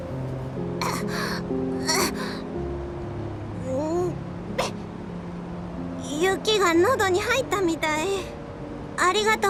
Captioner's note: cough, cough, cough